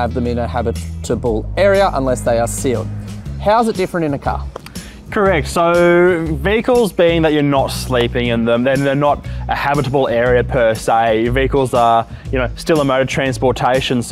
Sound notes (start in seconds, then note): 4.4 hands clapping